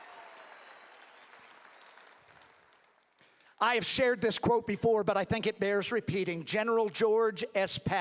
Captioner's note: applause